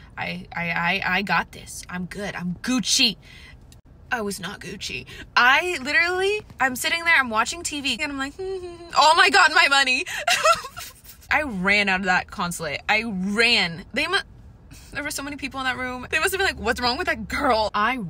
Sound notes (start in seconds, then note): 8.6 hums; 9.9 cries